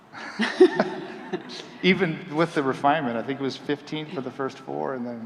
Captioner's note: chuckling